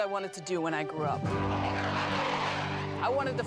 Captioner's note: airplane whirring